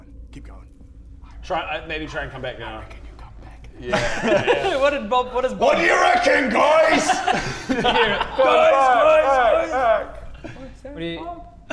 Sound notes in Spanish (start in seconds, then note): 2.7 susurró; 10.3 Voz a lo lejos